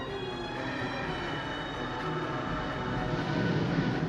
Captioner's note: wind howling